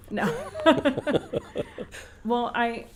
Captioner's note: laughter